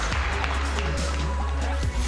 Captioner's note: applause